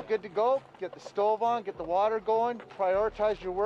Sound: voiceover

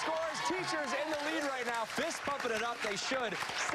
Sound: cheers and applause

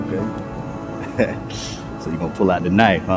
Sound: laughing

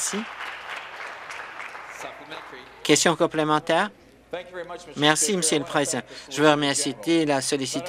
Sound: applause

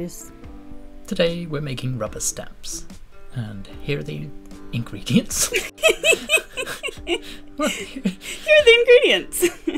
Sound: laughter

